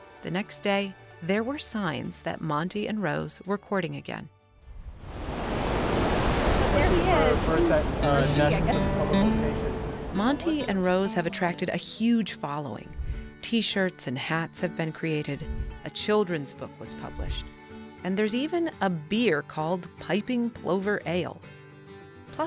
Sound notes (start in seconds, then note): 4.7 waves crashing; 6.8 chatting loudly; 8.2 soft music